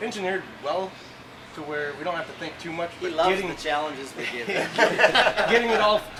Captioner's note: laughing